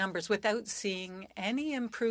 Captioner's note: speaking French